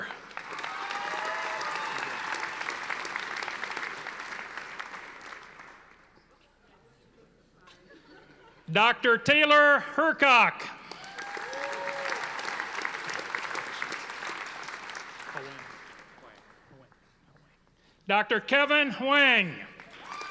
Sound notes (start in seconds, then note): 0.0 audience applauding; 10.8 audience applauding